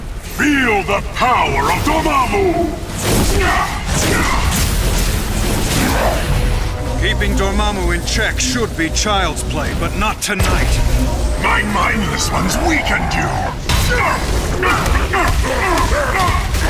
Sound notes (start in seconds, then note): 2.7 whoosh; 3.2 grunts; 5.0 whooshing; 14.1 grunts